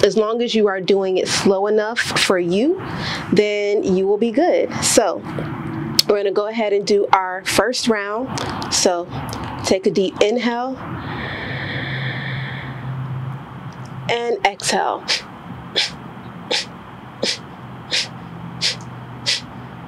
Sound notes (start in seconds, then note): 12.4 inhale; 14.6 short exhale x20